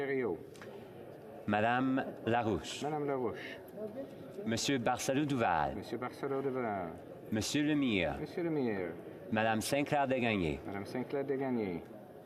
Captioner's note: calling of recorded vote